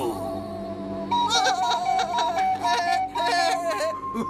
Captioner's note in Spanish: ríe hipnotizado; risa malvada